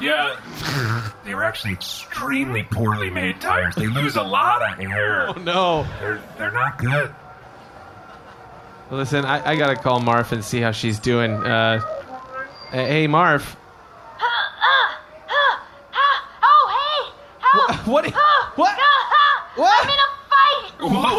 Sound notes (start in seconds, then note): 11.8 communicator beeps; 15.1 noises of effort